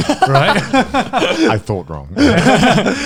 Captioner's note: laughing